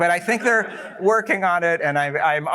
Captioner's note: laughter